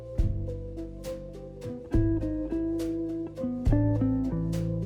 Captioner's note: none